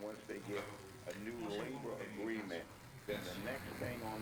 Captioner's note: chatter